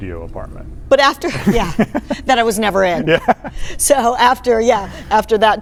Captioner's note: laughs